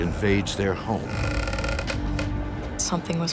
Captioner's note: creaking